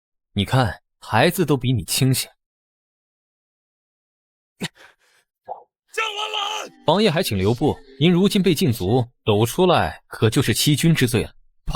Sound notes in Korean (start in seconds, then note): 6.0 콜록